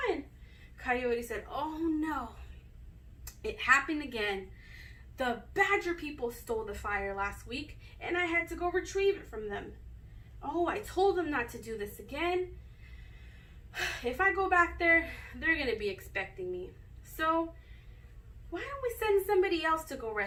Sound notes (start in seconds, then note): 13.3 sigh